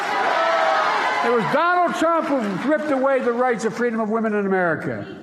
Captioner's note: applause